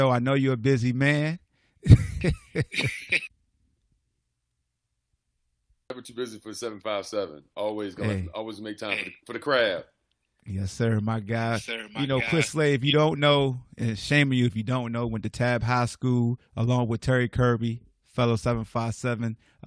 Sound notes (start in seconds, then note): 1.8 laughs